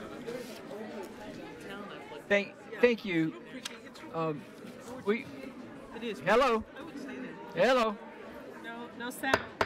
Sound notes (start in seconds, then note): 6.1 overlapping chattering